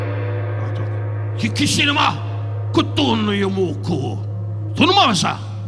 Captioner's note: dramatic gong music; Don speaking in Japanese